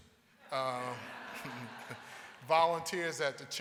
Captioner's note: audience laughing